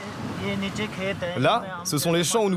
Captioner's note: foreign language spoken